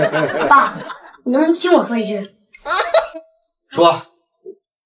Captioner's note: aha ha